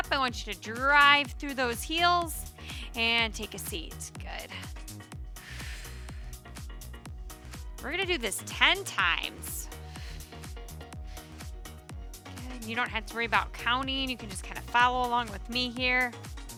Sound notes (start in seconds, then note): 5.4 exhaling deeply; 7.2 upbeat lively music